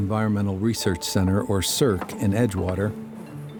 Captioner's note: gate opens